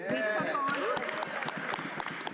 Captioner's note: applause